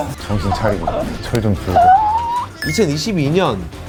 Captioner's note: shrieking